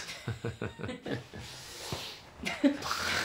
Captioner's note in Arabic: يضحك